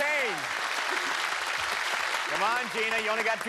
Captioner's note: applause